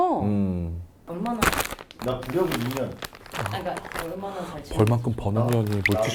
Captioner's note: rustle